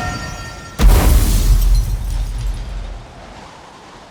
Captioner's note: explosion, ice shattering